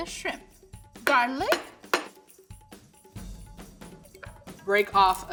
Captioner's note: knife banging